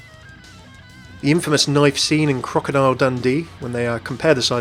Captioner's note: voiceover